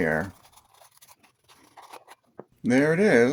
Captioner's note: unboxing sounds